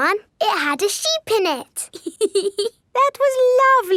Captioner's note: laughs